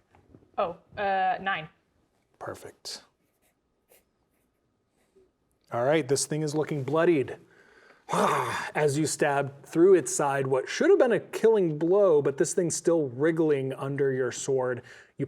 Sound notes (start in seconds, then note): 8.1 groans